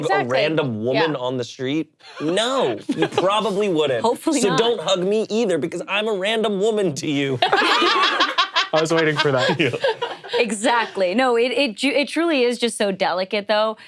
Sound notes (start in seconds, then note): 7.4 group laughing